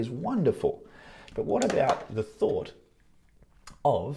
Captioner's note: sunglasses tapping